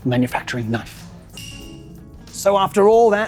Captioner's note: bell rings